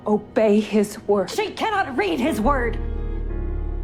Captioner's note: voiceover; shouting